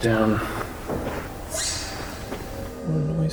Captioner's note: object thunks